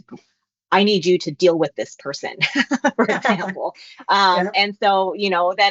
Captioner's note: laughs